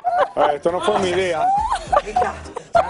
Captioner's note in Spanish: risas